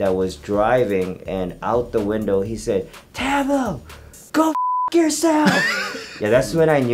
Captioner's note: beep